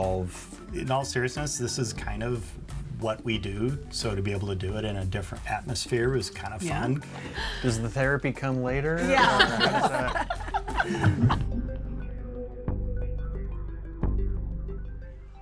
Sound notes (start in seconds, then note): 9.0 all laugh; 10.7 bouncy inquisitive music